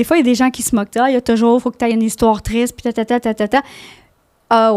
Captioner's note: in french